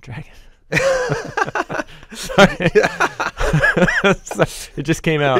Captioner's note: both chuckle